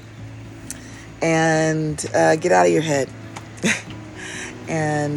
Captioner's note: chuckles